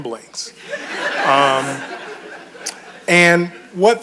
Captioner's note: audience chuckles